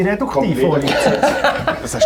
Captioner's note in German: lacht